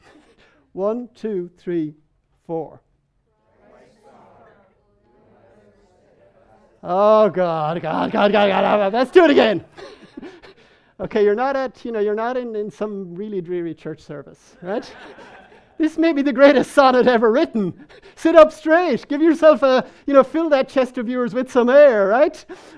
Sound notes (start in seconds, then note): 9.1 man laughing; 14.6 people laughing